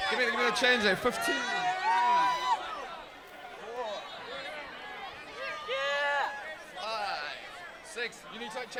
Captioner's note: crowd chatter